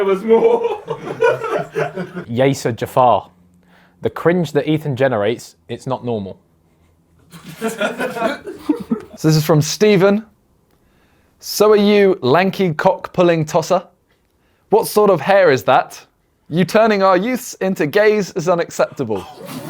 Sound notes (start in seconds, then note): 0.0 laughs; 7.3 audience laughs